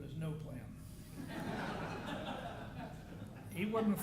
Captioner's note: audience laughing